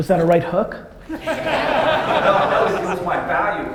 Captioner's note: audience laughter